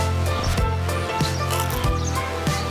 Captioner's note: chewing